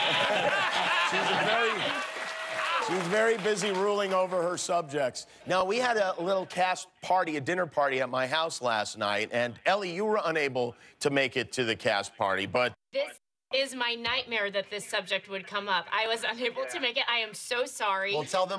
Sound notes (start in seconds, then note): 1.7 laughter